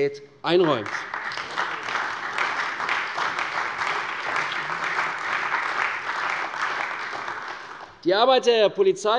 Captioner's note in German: Beifall bei der CDU und dem BÜNDNIS 90/DIE GRÜNEN